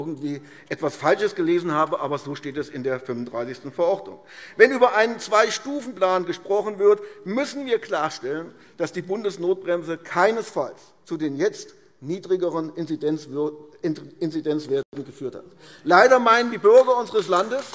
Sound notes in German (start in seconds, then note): 14.4 Beifall AfD